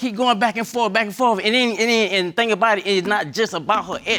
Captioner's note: stammering